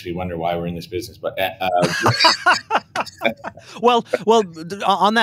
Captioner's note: laughs